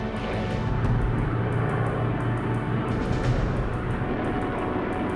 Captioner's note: plane engine roaring